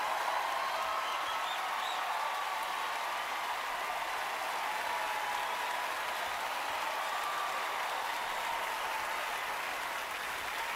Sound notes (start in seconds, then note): 0.0 cheering, applause